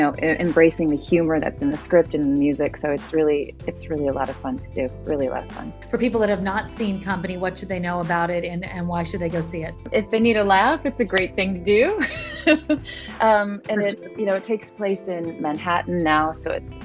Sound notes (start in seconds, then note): 12.4 laughing